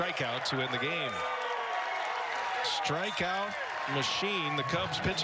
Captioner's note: cheers and applause